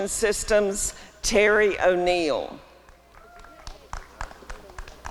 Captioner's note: applause and cheering